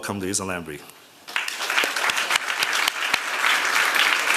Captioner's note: applause